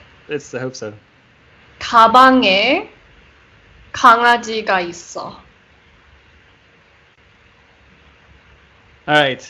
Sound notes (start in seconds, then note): 2.6 Korean